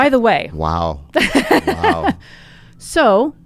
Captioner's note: laughs